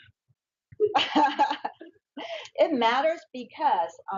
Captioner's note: laughs